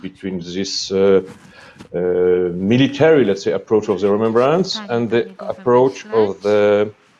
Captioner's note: interference from the convenors in Polish